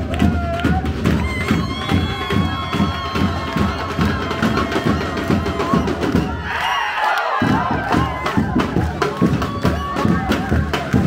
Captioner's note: applause